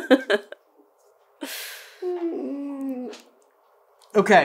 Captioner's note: whiiiiiiiine